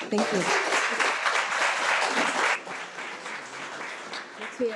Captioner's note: audience applauding